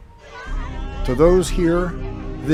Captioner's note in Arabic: يصرخ في محنة